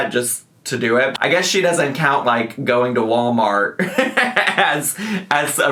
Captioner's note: laughs